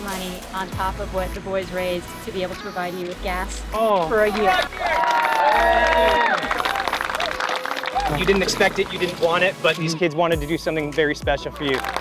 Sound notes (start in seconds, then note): 4.0 crowd cheering